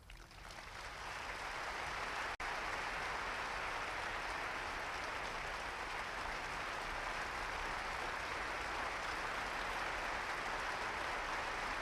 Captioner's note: applause